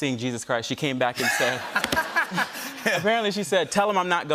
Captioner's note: laughter